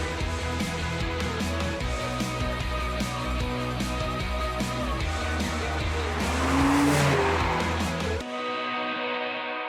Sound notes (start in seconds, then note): 0.0 upbeat music; 5.9 car engine rumbles